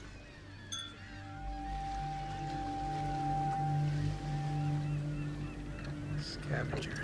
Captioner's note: ominous music; glasses clink